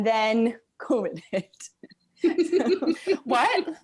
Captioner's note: laughing